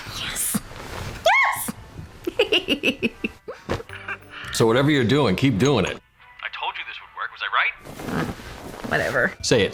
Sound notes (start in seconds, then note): 2.2 giggling